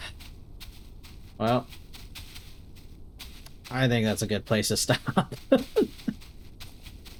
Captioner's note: tired chuckling